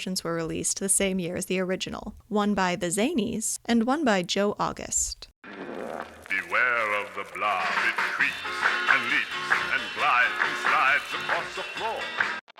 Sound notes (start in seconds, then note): 5.4 blob sound